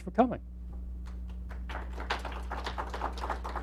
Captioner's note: applause